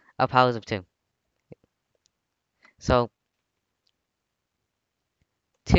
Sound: waits in silence

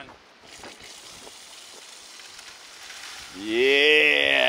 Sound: water splashing

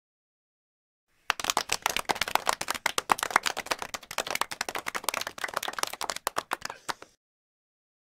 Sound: sound of clapping

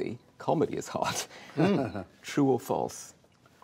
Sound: laughs

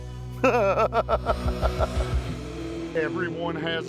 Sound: laughs

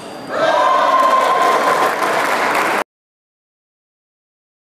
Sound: applause

